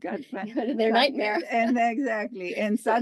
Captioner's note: laugh